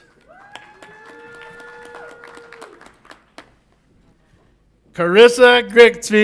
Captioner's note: audience applauds and cheers